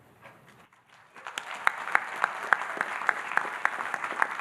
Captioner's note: audience applauding